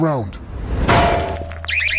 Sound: clang

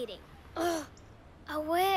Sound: groans

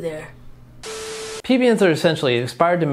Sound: static crackles

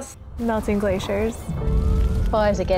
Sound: fire crackling

